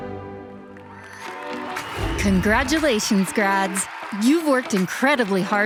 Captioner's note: audience cheers and applauds